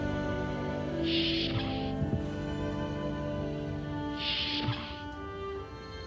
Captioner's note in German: Türe öffnet und schließt sich